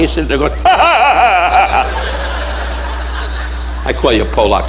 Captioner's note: audience laughing; laughing loudly